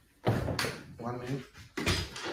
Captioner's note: chair thuds